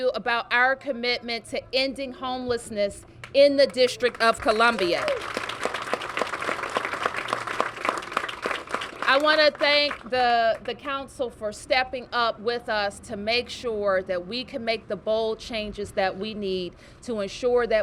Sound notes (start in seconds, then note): 6.0 cheers and applause